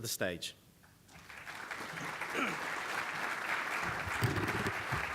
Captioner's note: audience applauding